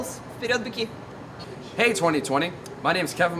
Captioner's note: speaks foreign language